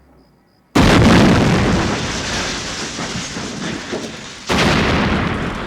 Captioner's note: thunderous explosion